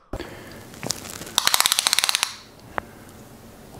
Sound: tape measure clicking

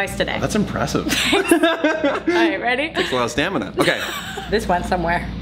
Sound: laughing

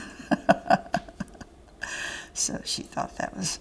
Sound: laughter

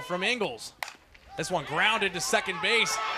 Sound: ball hitting bat

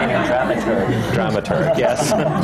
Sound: laughter

